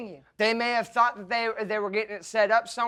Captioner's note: stammering